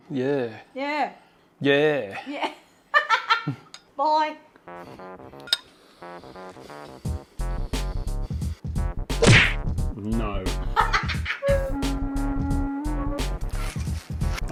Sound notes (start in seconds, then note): 3.1 laughs; 10.6 cackles